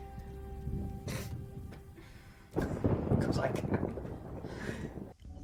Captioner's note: scoffs